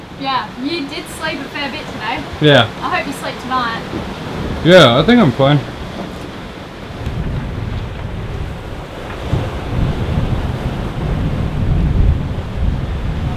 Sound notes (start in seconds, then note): 7.1 waves lapping